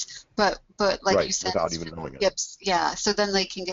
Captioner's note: voiceover